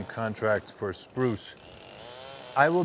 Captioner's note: chainsaw buzzing